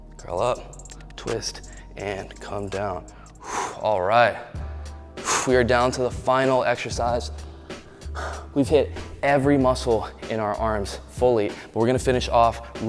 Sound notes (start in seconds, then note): 3.0 exhales; 7.3 exhales; 7.8 sighs